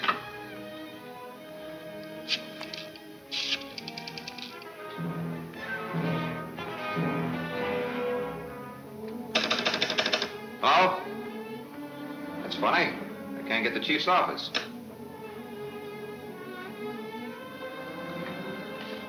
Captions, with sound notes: (pensive orchestra music) (phone clicking) Hello? That's funny, I can't get the chief's office.